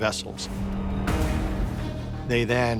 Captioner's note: cannon booming